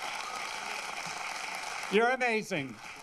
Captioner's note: applause